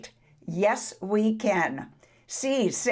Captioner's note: speaks foreign language